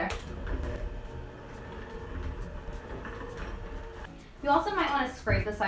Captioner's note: mixer whirring